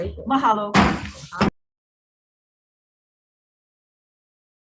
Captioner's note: gavel bangs